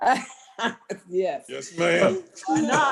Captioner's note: laughter